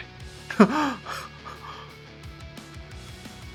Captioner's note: shocked unheterosexual laugh